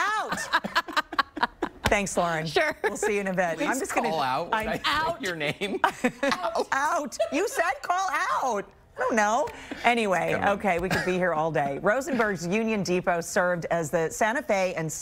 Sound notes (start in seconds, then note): 5.3 laughter